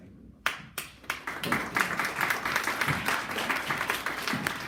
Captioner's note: clapping